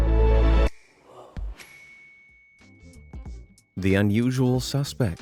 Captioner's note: star chimes